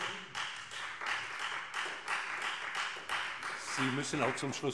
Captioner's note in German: Beifall Freie Demokraten